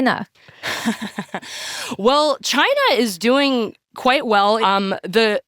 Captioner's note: laughs